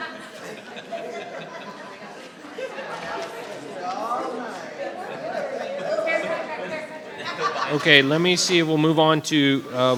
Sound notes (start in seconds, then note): 0.1 attendee laughs; 1.9 attendees chattering